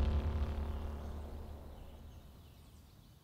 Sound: birds chirping

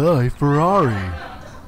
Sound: laughter

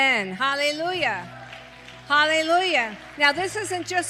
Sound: congregation applauds

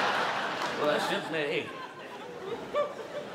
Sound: laughter

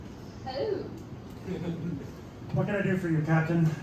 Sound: laughter

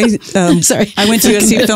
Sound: chuckles

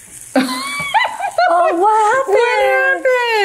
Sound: laughter

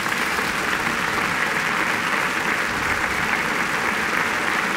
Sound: applause

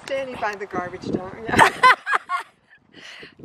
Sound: laughing

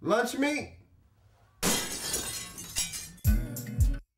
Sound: glass breaking

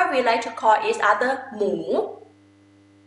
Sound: talking in foreign language

